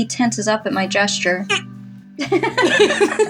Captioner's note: stiff Grunt; both Laugh